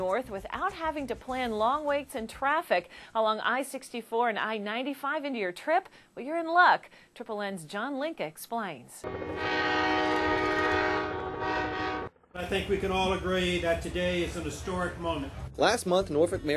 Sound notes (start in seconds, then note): 9.0 train whistle